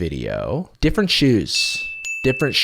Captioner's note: ding sound effect